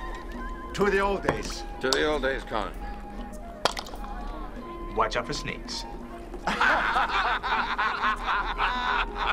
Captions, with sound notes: - To the old days. - To the old days, Conan. (wooden clank) - Watch out for snakes. (laughing)